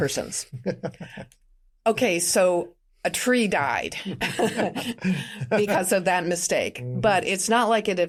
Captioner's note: laughter